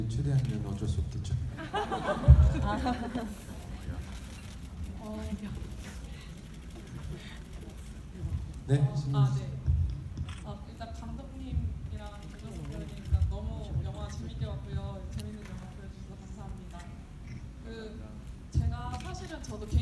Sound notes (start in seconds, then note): 1.5 audience laughing; 8.8 audience member speaking in foreign language